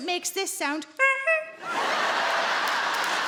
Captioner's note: Sarah imitates horn honking; audience laughing and clapping